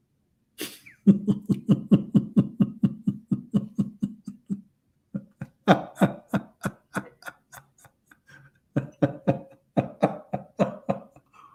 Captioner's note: Ketawa